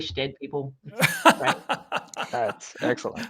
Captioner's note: laughing